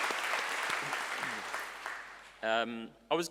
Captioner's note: clapping